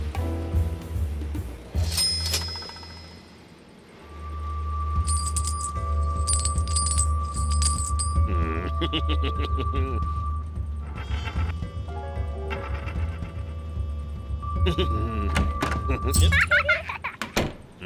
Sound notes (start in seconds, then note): 1.8 cash register bell rings; 4.1 magnet whistling; 4.8 coins clanking; 8.3 laughing; 15.8 laughing; 15.8 giggling